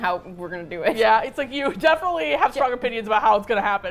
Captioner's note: laughs